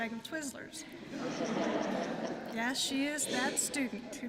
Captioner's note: laughter